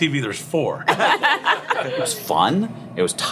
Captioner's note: laughing